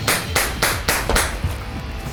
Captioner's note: gun shots